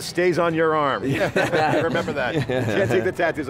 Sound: laughing

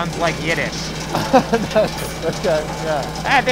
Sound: laughing

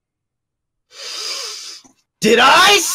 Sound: inhale

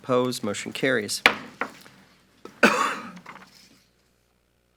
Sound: gavel banging loudly

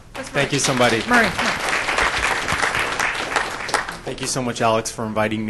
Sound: applause

